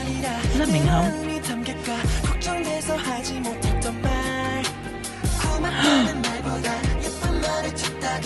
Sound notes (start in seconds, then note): 5.6 gasp